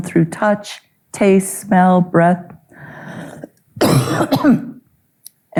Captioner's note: coughing